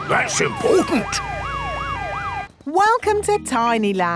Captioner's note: sirens wailing